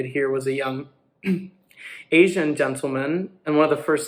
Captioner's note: throat clear